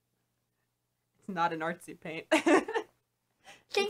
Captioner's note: laughs